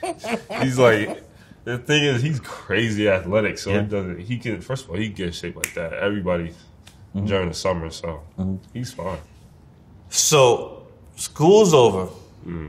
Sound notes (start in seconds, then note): 5.6 snaps